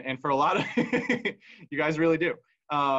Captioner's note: laughs